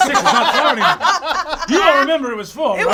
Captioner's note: all laugh